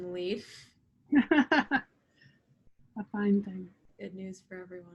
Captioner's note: laughs